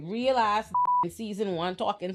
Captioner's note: beep